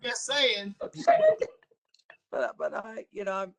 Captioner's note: laughter